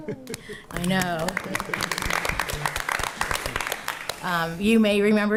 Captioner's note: attendees applauding